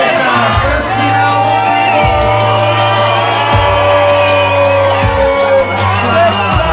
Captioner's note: crowd cheering